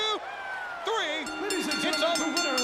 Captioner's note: bell ringing